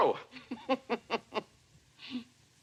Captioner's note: chuckles